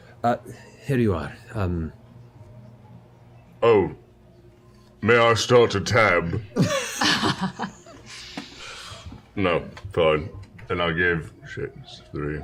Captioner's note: mutters